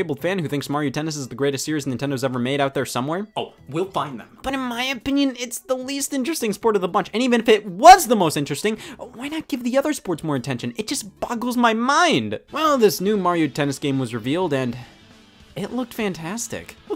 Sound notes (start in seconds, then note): none